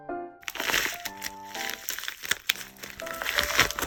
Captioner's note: rustling